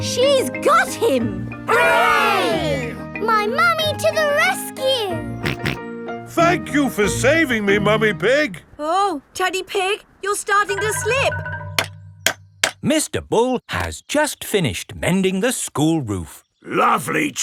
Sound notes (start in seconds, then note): 5.4 snorting; 12.4 clanking